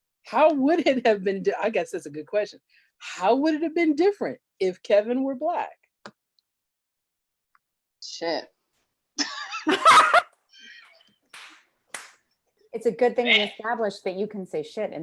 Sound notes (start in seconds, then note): 9.2 laughter